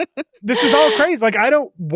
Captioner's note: chuckles